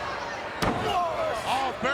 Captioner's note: feet stomping